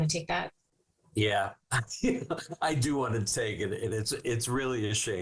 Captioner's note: chuckling